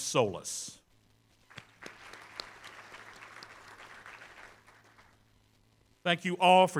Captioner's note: applause